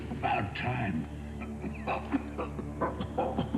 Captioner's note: coughing